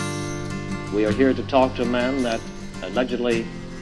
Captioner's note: radio Announcer